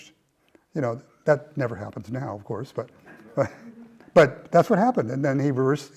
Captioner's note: laugh